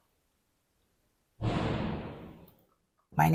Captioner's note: bang